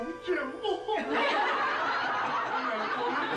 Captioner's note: all laughing